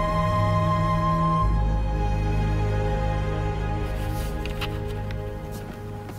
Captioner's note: boat's horn blows